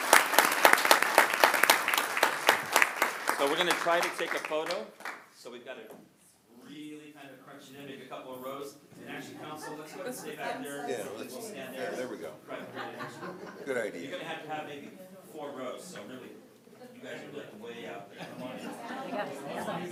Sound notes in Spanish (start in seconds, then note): 11.7 aplausos